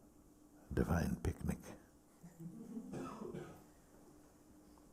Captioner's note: laughter